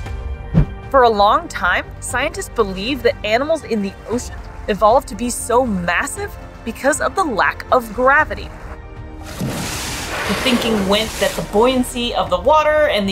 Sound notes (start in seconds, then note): 0.1 background music; 8.6 background music; 9.2 noise of whale spouting water